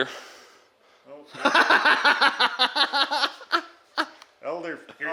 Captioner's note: laughing heartily